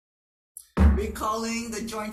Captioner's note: gavel bangs